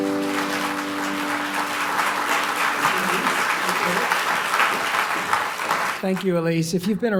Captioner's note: applause